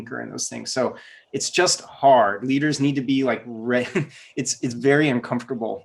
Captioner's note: laughs